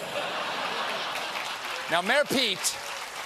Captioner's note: applause